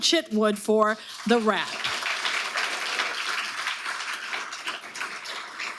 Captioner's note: audience applauding